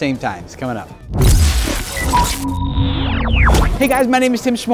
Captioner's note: electric static